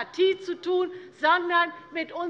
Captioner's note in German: none